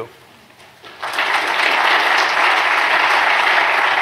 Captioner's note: applause